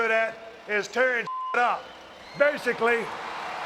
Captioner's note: beep